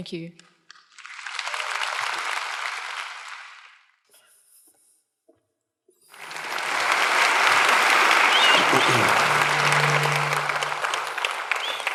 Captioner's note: applause